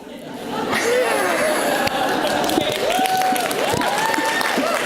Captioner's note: audience laughs; audience cheers